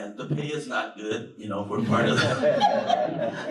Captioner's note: laughter